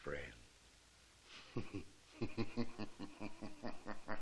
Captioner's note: giggling